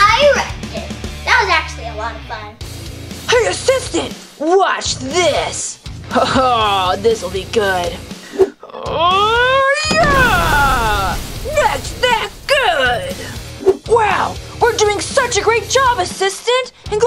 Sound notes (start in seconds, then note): 2.8 rock music; 8.4 Ralph grunting